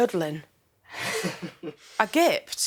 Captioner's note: laughs